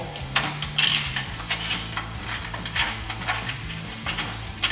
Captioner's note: metallic clattering